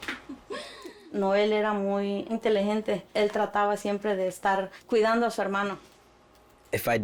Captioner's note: speaks in foreign language